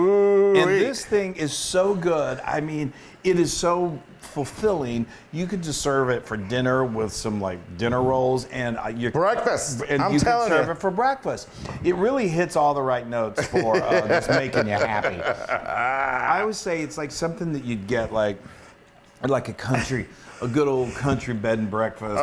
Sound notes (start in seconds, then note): 13.4 laugh